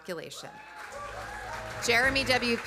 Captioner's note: audience applauding; audience cheering